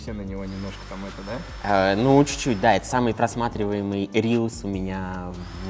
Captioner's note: drill on background